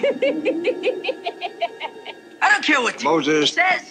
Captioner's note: laugh